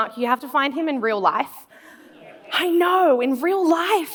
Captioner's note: laughs